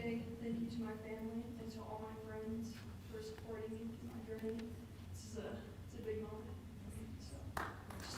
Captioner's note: applause